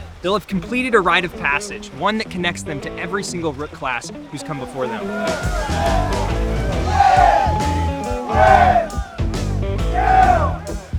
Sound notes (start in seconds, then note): 4.0 upbeat jazzy music continues; 4.1 rooks vocalizing